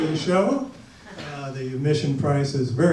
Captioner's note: audience laughs